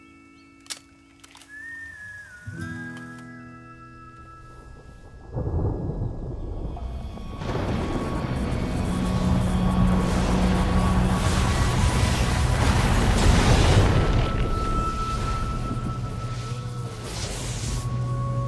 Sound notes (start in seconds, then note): 5.6 thunder rumbling; 8.1 electrical crackling; 14.2 mysterious music playing